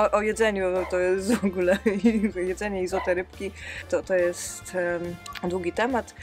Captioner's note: haha